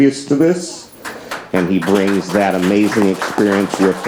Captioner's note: audience applauds